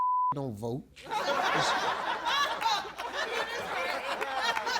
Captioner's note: beep; audience laughs